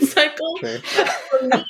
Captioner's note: laughs